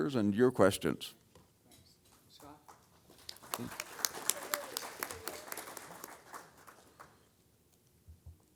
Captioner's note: applause